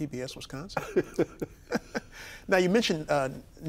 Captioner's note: both laughing